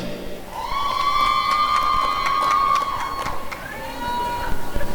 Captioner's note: applause and cheering